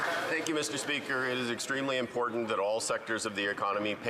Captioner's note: some Applause